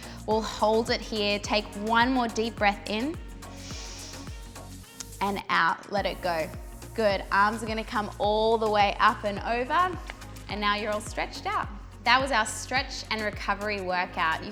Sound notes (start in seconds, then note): 3.5 inhaling